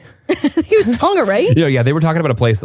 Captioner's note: laughs